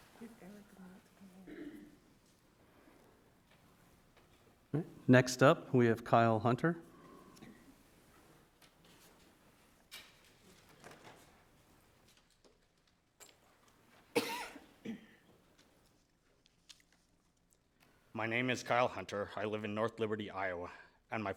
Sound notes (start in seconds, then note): 0.8 chattering indistinctly